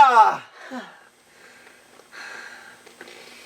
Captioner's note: sighs happily